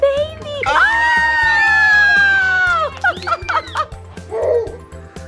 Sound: excited squealing

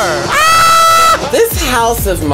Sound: screams

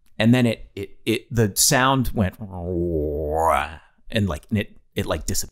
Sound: Glenn humming faintly

